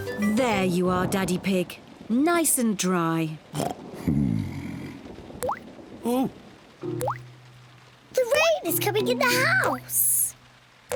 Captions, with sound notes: There you are, Daddy Pig. Nice and dry. (OINKS) Hmm. Oh! The rain is coming in the house!